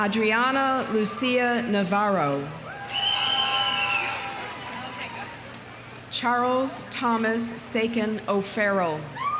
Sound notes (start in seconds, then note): 2.7 audience cheering; 3.0 audience applauding